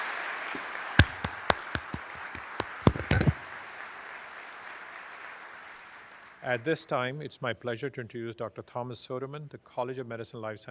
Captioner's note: applause